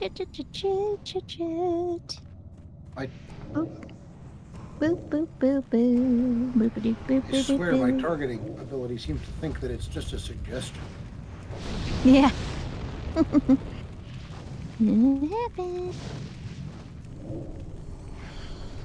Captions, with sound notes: Ch-ch-ch-ch-ch-ch-ch-ch-ch-ch-ch-ch. I-- Oh. Boop, boop, boop, boop, boop, boop, boop, boop, boop, boop, boop, boop, boop. I swear my targeting ability seems to think that it's just a suggestion. Yeah. [LAUGHS] What happened?